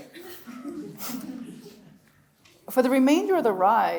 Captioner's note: audience laughs